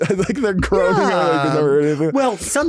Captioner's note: laughing